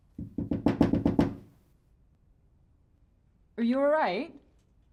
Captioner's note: knocking on door